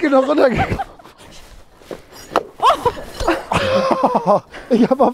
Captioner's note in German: Gelächter